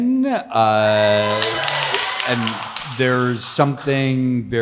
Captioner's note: audience cheers